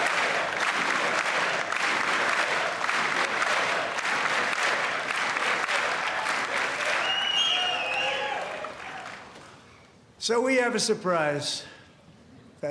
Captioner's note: crowd chanting "usa"; cheers and applause